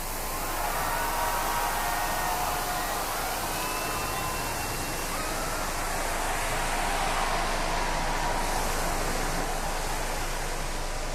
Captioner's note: crowd cheering